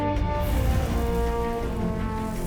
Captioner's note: whoosh